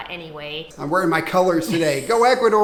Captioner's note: laughs